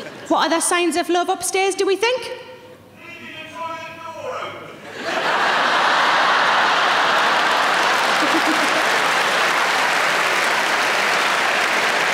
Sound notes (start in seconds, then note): 4.8 audience laughing; 5.4 audience clapping